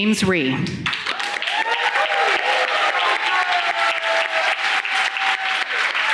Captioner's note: audience cheering and clapping